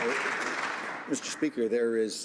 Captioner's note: some Applause